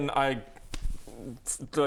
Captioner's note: slap